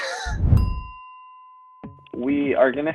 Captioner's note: bell dings